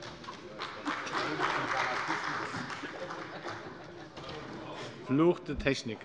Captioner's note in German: Beifall bei der CDU